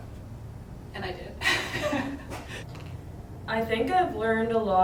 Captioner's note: laughs